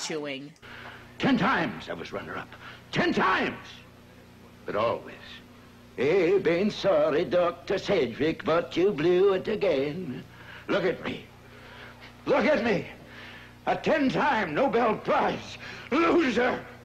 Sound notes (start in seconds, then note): 5.2 Swedish accent